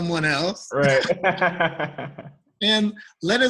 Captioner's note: laughter